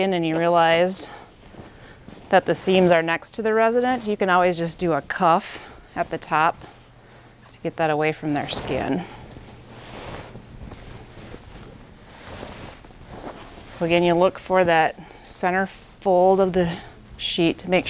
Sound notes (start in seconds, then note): 9.3 sheets rustling